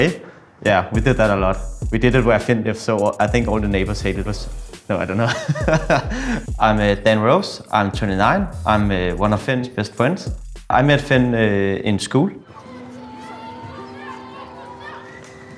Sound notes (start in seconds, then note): 5.2 laughs